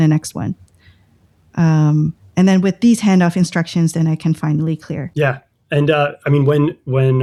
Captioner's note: uh